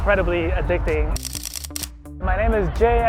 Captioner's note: camera clicking